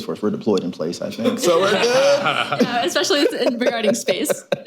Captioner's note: laughter